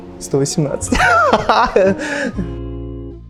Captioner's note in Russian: смеётся